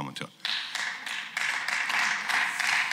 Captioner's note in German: Beifall